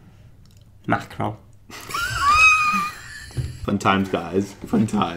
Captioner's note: laughing